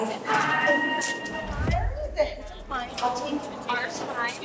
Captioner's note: inmates chattering